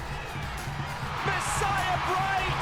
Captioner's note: crowd roars